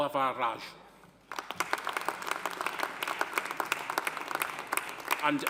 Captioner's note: audience applauding